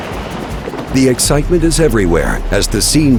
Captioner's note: voiceover